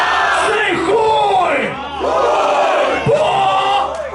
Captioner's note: crowd